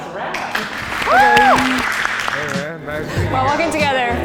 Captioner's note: clapping